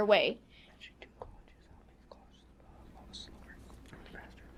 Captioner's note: students whisper